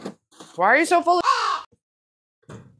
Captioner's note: caw